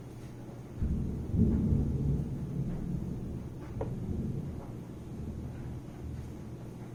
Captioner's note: thunder